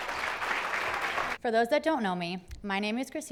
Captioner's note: clapping